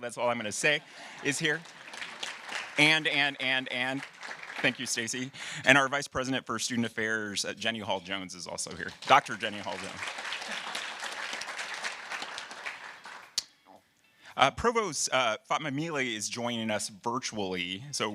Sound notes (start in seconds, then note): 0.5 audience applauding; 10.4 audience applauding